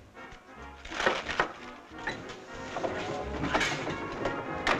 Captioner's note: vegetables crunching